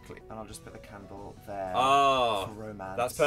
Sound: moans in agreement

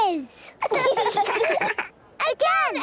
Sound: children laughing

